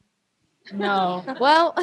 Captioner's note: laughter